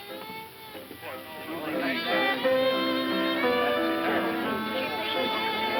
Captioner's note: bar patrons chattering